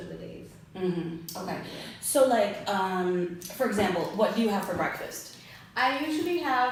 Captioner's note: hmm hm